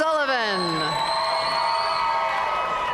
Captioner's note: audience cheering and applauding